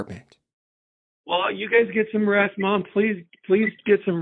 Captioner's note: on phone